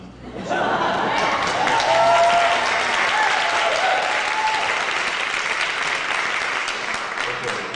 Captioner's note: applause